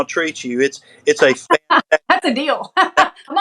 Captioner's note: laugh